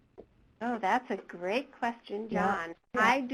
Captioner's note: voiceover